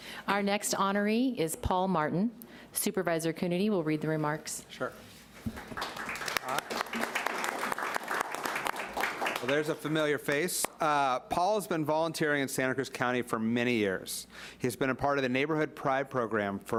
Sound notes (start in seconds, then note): 5.4 applauding